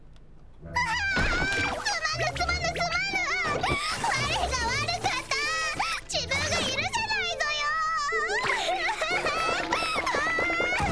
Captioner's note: sob